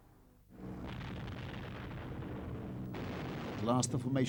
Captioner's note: explosions